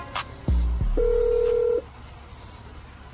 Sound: phone ringing

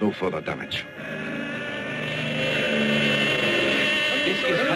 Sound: plane roaring

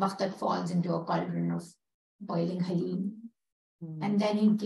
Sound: non-english

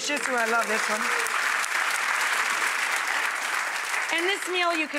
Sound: audience applauding

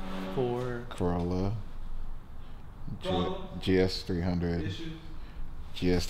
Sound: beep

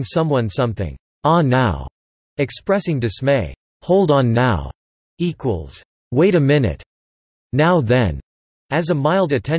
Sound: expressing dismay

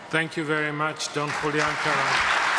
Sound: audience applause

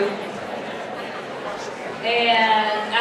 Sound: audience chattering

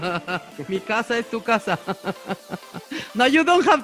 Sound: laughs

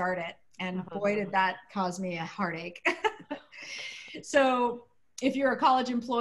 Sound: laughter

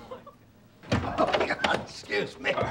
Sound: laughing

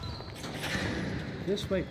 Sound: ball bouncing on floor; gym door opens

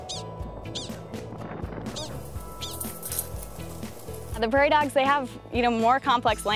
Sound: prairie dogs chirping

